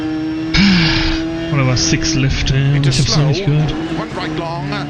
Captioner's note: sighs